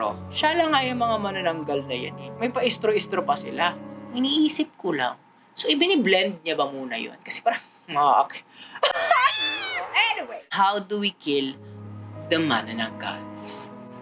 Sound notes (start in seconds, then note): 8.8 laughs